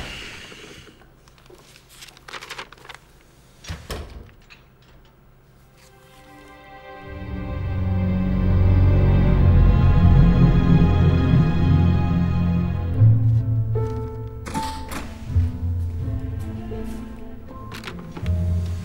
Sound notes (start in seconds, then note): 0.1 grunts; 3.7 door closes; 14.4 door opens